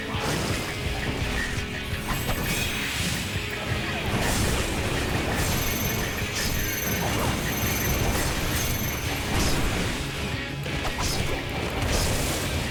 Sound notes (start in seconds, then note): 2.0 explosions